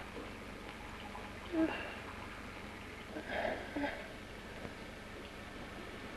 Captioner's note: whimpering